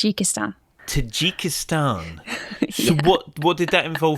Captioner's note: laughs